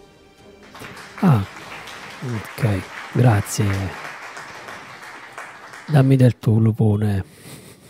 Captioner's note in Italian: Applauso